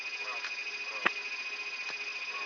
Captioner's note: engine